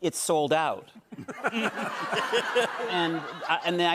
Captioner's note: laughter